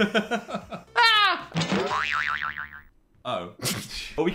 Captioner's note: hosts laugh; spring bellows